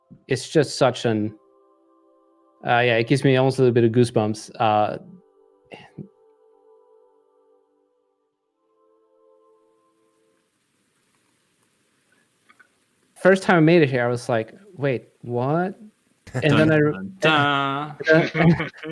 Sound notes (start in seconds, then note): 4.3 game music; 10.0 rain falling